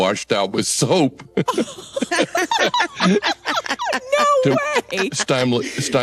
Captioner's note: laughter